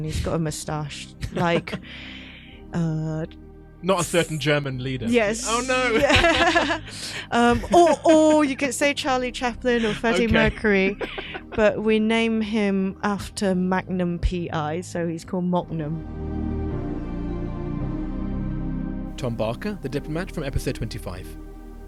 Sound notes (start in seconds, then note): 17.2 voiceover